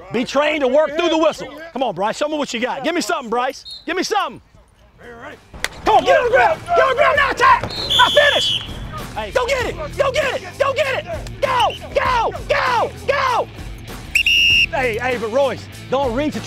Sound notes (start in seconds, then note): 7.5 whistle blows; 14.0 whistle blows